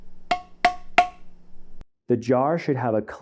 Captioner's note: echoed tapping; light tapping